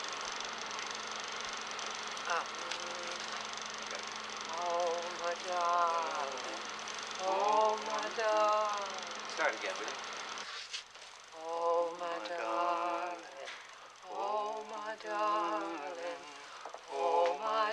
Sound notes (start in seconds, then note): 2.5 sustained Hum